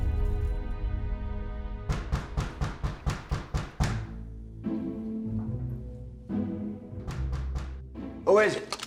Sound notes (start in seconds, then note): 1.8 fist pounding; 5.1 playful suspenseful music